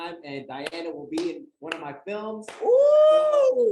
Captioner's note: audience shouts